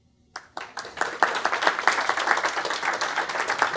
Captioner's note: applause